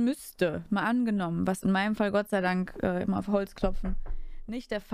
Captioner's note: knock knock